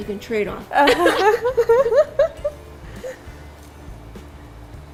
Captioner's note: both laugh